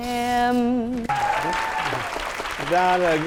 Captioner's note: applause